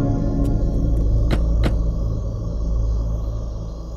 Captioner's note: Car door closes